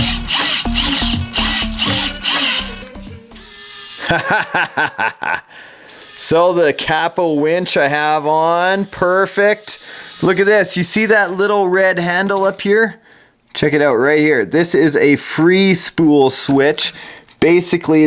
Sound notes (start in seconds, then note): 0.0 electronic noises; 4.0 laughs